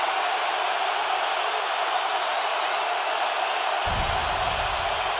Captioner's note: crowd roaring